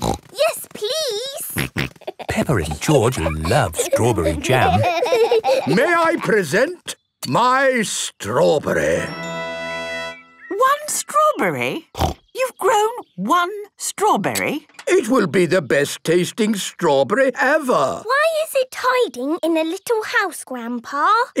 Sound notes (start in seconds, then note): 5.1 laughing